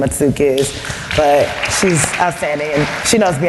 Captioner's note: applause